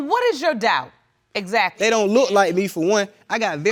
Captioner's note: none